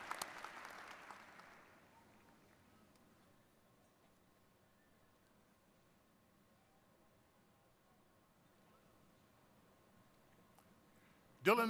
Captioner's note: applause